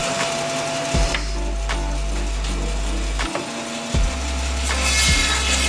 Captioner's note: bandsaw whirring